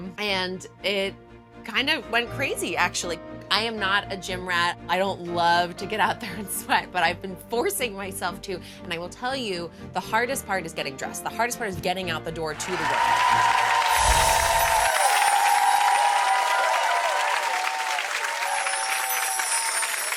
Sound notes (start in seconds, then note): 12.5 cheering